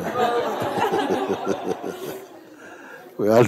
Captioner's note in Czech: smích